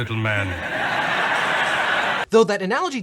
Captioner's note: audience laughs